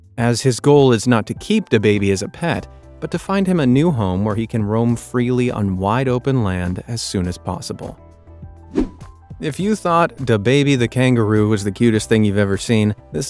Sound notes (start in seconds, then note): 8.6 air whooshes